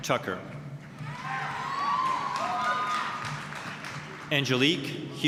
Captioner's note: applause, cheering